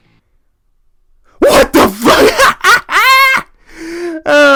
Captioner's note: laughing